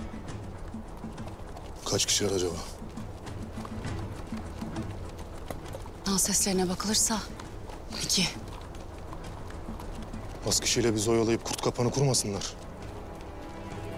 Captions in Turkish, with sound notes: Kaç kişiler acaba? [Nal sesleri] Nal seslerine bakılırsa, iki. Az kişiyle bizi oyalayıp, kurt kapanı kurmasınlar?